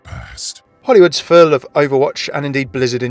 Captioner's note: voiceover